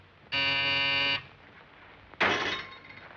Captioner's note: buzzer